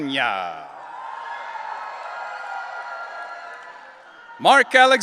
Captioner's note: audience cheering